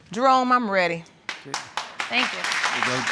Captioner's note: audience clapping